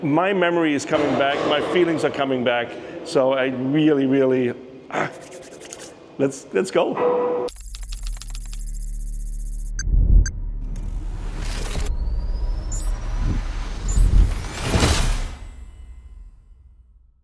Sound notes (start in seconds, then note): 4.9 rubbing palms; 7.5 keyboard clacking; 10.0 graphic whooshing; 14.7 graphic whooshing